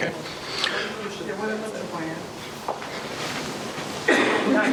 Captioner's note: laughing